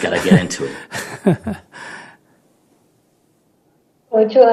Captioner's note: Sunim Laughter